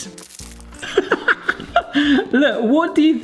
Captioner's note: laughing